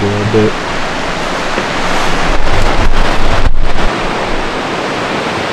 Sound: water rushing

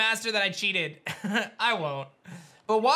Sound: giggles

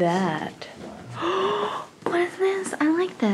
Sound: gasps

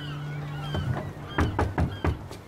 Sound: knocking on deck

